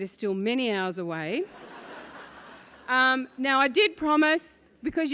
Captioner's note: laugh